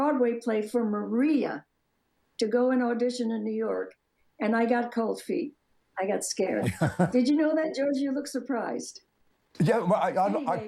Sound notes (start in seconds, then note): 6.6 laughs